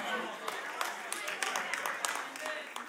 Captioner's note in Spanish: Aplausos